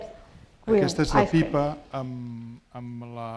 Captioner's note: speaking spanish